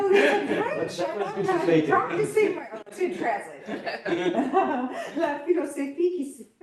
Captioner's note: laughs